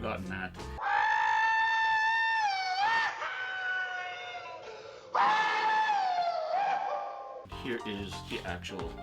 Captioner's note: screaming